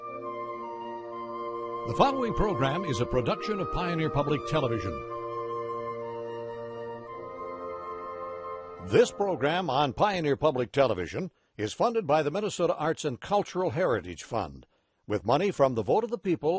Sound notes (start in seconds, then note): 1.9 voiceover